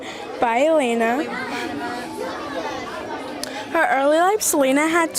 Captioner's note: students chattering